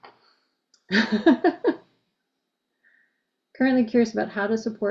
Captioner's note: laughs